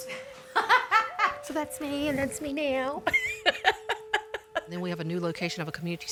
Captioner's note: laughs